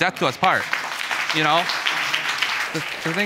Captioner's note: audience applauding